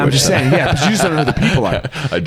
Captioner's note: all laugh